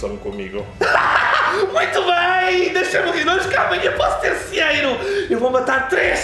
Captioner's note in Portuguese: Risos